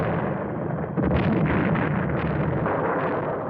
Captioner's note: explosions